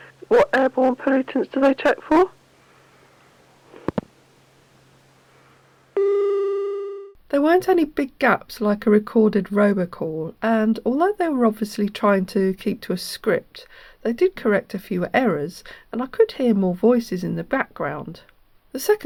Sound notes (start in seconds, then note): 2.5 click...... dialling tone